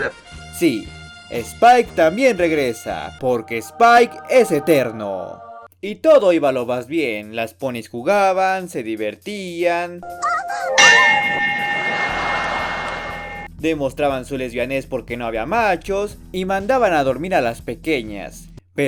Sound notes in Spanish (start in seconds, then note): 10.0 sonido del chavo